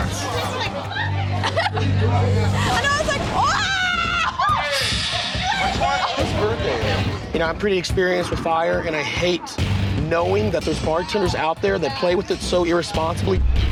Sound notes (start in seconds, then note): 0.0 laughter; 4.4 dramatic music